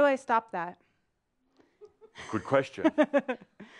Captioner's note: she giggles